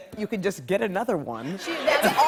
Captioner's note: laughter